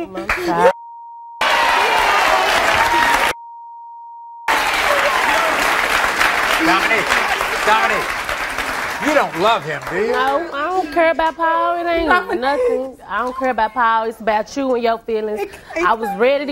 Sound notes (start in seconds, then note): 1.4 audience cheering